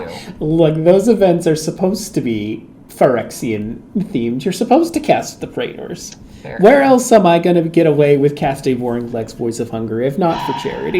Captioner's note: sigh